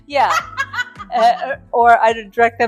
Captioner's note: laughing